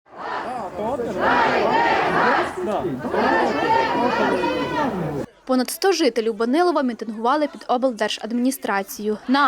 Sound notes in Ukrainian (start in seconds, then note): 0.1 Лунають вигуки «Дайте газ!»